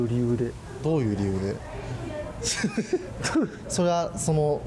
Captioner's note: laughs